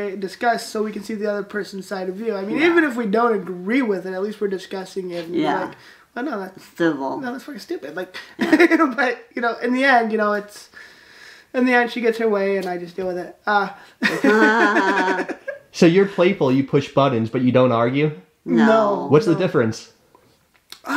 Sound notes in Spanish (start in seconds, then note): 14.0 ambos se ríen